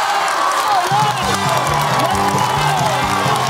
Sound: applause

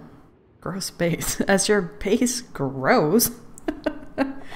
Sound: laughs

